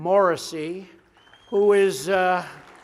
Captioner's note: applause